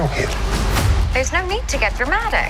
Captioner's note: intense thud